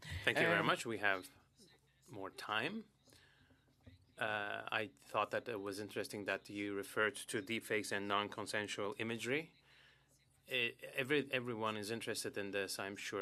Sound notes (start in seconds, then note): 3.7 speaking French